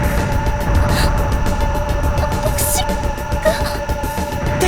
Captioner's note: gasp